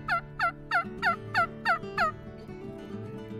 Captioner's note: turkey call